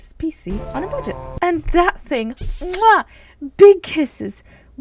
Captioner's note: muah